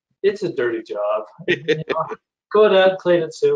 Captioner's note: laughs